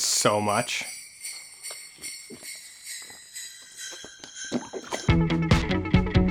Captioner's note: sleigh bells slow in pitch, stop